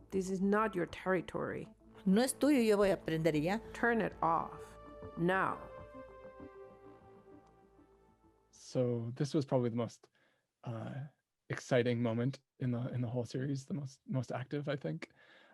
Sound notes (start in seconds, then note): 2.0 speaking in foreign language